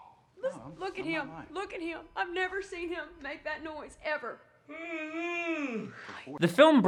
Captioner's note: Ricky yawns